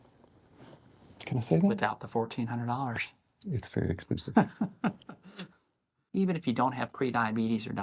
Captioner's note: laugh